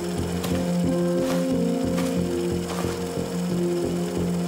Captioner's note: film reeling